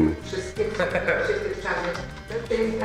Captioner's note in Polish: śmiech